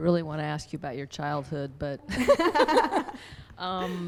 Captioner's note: voiceover; laughs